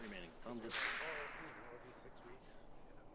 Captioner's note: rifle fires; people talking